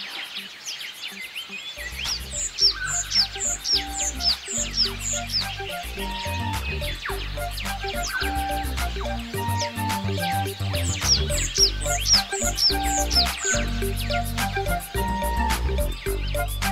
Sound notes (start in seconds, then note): 2.1 birds chirping; 3.6 upbeat music background; 15.5 upbeat music background